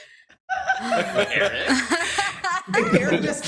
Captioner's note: laughter